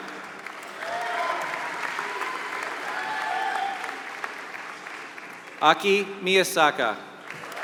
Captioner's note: applause